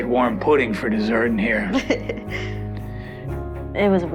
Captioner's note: Kirsty laughs